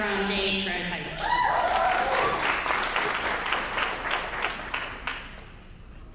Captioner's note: applause